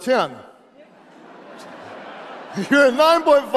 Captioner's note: audience laughs